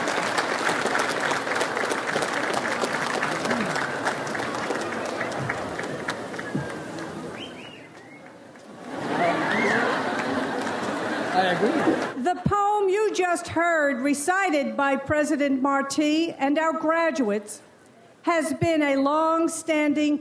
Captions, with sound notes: (catcalls) (audience laughs) - I agree. - The poem you just heard recited by President Martí and our graduates, has been a long-standing commencement tradition